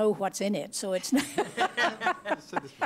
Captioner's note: laughter